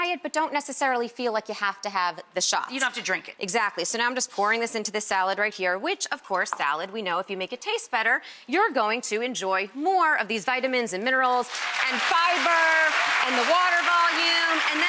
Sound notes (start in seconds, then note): 11.4 audience clapping and cheering